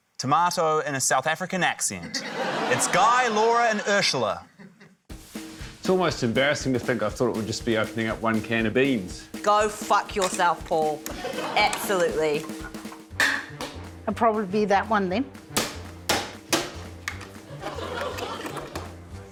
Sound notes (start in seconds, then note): 2.0 laughter; 13.2 clang!; 16.0 hammer bangs; 17.4 laughter